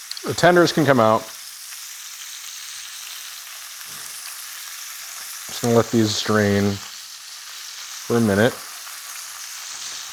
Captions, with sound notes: The tenders can come out. (meat sizzling) I'm just gonna let these drain for a minute.